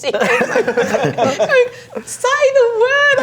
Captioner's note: laughing